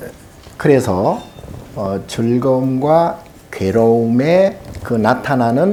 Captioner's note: speaking Korean